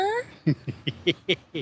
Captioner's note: laughs